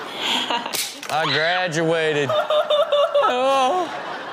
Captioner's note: audience laughs